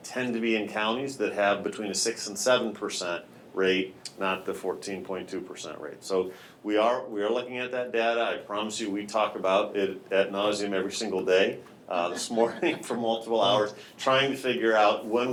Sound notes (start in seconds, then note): 11.9 laughing; 11.9 chuckles